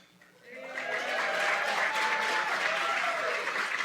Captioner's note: cheering